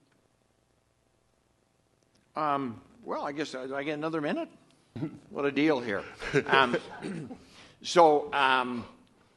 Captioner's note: off camera laughter